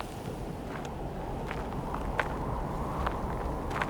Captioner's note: wind howling